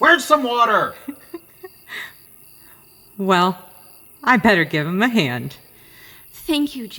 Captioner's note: chuckling